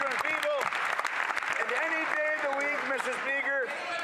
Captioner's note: some Applause